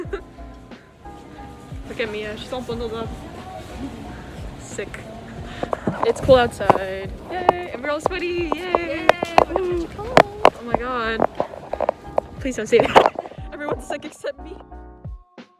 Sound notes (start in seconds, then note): 5.6 laughs; 12.8 laughs